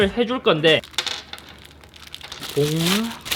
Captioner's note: fumbling